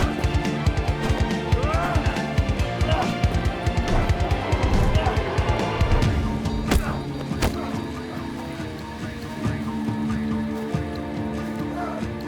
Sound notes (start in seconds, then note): 1.8 both moaning; 6.2 dramatic music